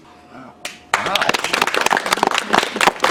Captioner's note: clapping